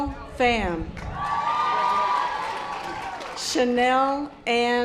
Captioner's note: audience applause